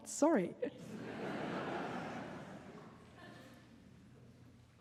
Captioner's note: audience laughing